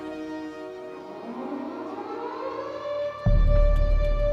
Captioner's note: alarm wails; dramatic music